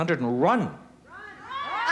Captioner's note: crowd shouting